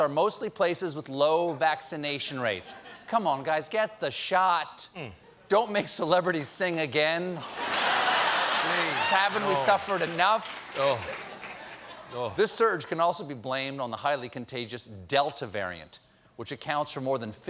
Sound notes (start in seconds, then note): 7.4 laughter